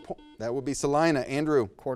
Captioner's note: buzz